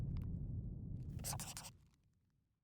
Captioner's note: scribbling